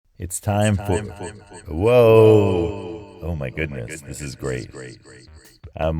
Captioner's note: voice with spacey feedback echo loop